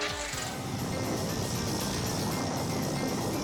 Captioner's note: dramatic music continues; tires rumbling; dramatic music continues